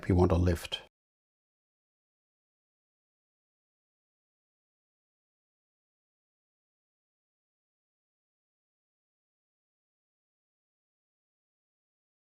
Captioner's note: silence